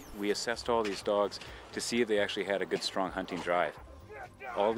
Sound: voiceover

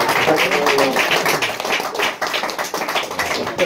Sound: loud applause

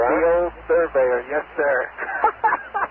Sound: laughs

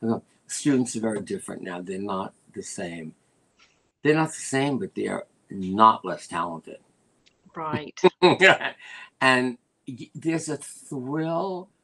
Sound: laughter

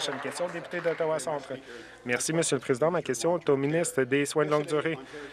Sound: some Applause

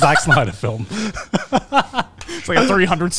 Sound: everyone laughs

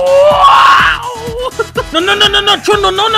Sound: laughing

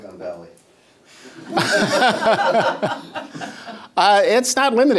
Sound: laughter

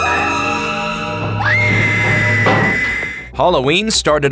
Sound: screaming

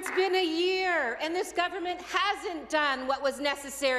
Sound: some Applause

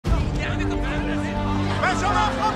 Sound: crowd clamoring

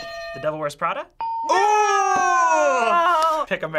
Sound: ding; hitting bell

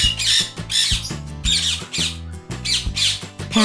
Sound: parrot sound

